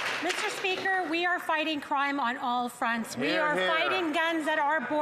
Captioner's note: applause